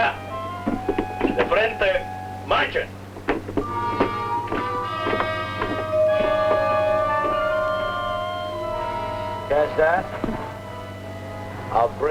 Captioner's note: speaking spanish